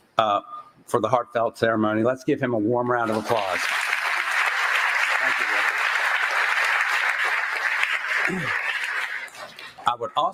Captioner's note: applause